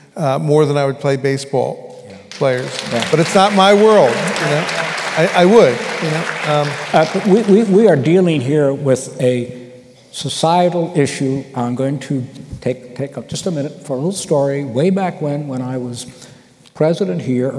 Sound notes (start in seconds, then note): 2.2 applause